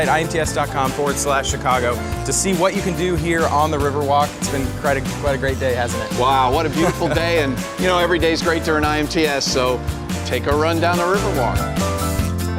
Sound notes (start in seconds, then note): 6.6 chuckling